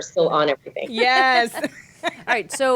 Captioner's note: laughing